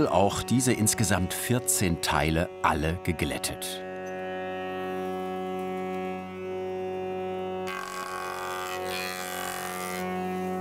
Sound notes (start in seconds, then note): 4.3 quiet music; 7.8 planing noises